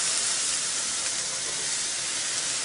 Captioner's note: sizzling